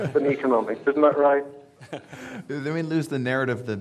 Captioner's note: audience laughing